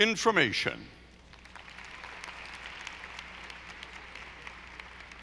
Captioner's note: audience applauding